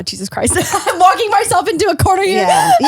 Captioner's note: laughs